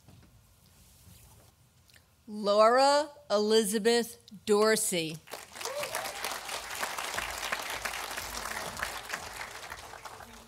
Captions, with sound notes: Laura Elizabeth Dorsey, (audience applauding)